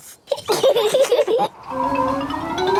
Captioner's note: both laughing